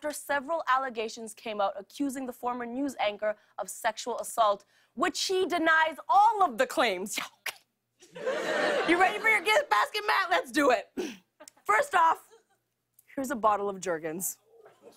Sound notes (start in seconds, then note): 8.0 laughter